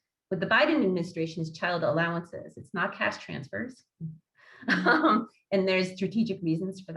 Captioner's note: laughs